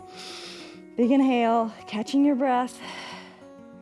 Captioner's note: inhales; exhales